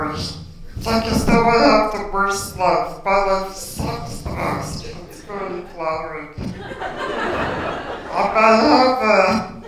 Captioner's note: laughter